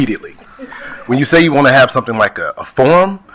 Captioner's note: attendees laughing